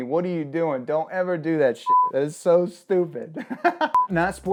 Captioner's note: laughing; beep